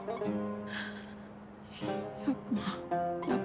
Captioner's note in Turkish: Ağlama sesi